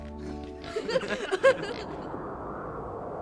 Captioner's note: everyone laughs; wind blowing